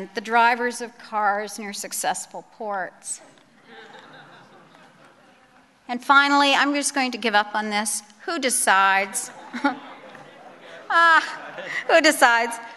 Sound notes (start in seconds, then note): 3.6 laughter